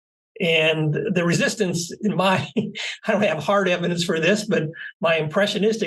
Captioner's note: laugh